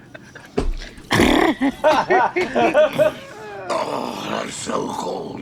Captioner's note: all laughing loudly; Frank slurps softly